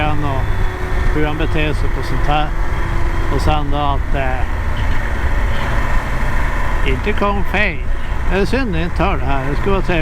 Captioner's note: intercom speaks